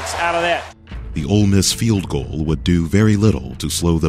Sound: voiceover

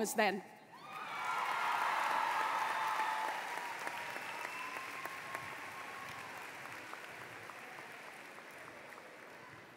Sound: applause

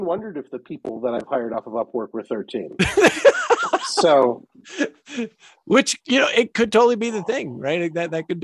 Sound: laughing

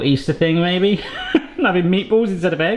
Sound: laughs

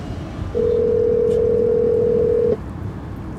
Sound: phone ringing

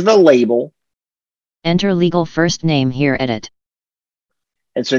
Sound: screen reader voice

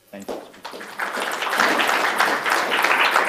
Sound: applauding

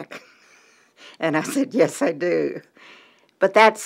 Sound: chuckle

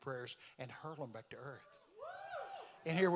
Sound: congregation cheering

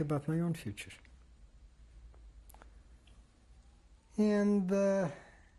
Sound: pauses for 3 seconds

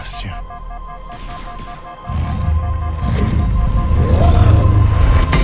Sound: HUD alarm beeps

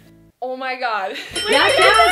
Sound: bell dings

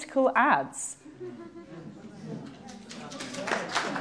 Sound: applause

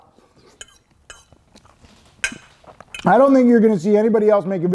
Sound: fork scrapes

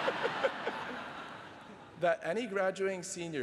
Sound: laughter

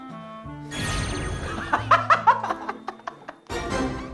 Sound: bursts out laughing

